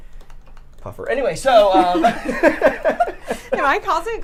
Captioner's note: laughs